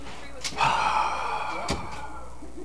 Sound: frustrated sigh

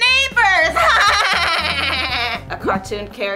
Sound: Francia impersonates laugh

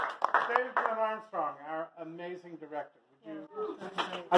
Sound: applause

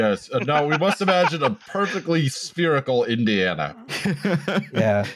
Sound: laughter

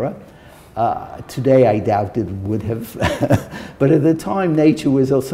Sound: chuckle

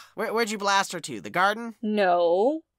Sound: none

